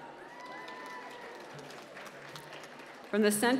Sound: applause

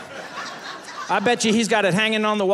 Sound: audience laughing

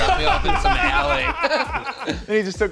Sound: laughs

